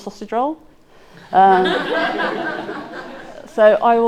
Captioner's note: audience laughing